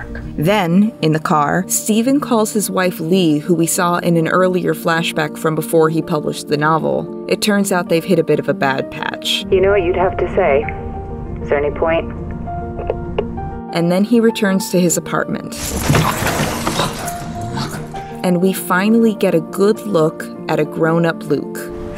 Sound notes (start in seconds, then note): 15.5 stuff falling on the ground; 16.5 Steven under his breath